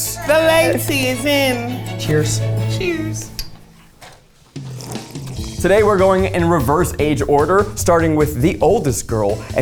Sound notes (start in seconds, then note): 3.3 cups clink; 3.3 both slurping